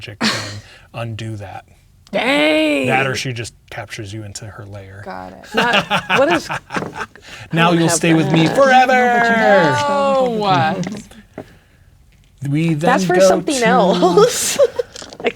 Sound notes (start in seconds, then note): 5.4 laughing; 10.4 speaking quietly